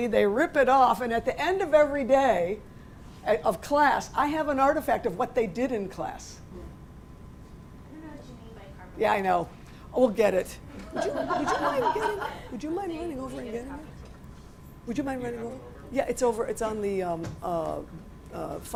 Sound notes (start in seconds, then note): 8.1 voiceover